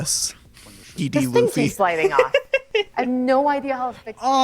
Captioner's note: laughs